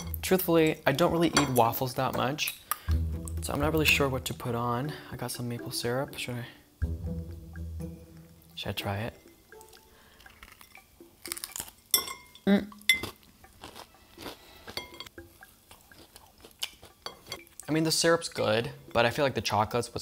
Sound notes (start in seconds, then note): 10.7 waffle crunches; 13.0 chewing loudly